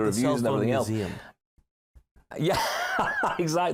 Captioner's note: laughter